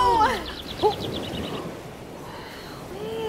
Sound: birdsong

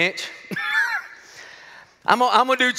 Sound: laughs

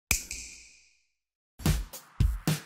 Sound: snap

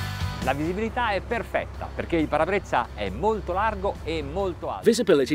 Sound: speaks in foreign language

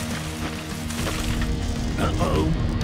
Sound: tree cracking

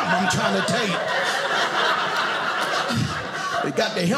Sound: audience laughing

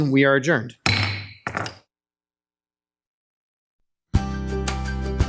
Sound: gavel bangs; upbeat music

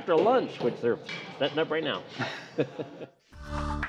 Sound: laughs; lively music

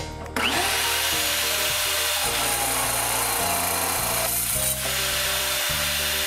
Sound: saw Sounds

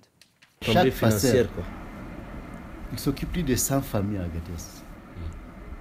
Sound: speaks in a foreign language

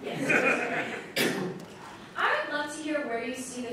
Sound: audience laughing

